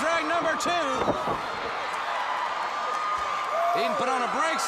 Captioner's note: crowd cheering